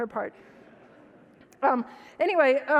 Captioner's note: audience laughs